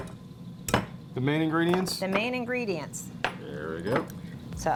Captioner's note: banging noise